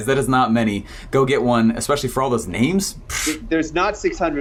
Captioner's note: blows air